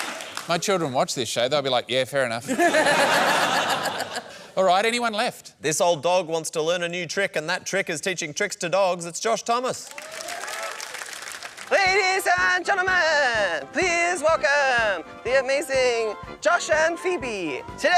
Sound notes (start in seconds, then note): 2.4 laughter; 9.7 applause